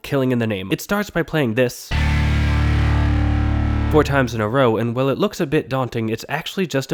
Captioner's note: bang